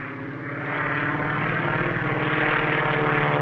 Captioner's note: engine roars